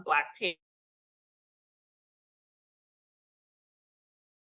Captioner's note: audio cuts out